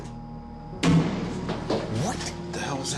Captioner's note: thud